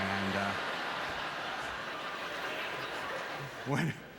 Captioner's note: audience laughter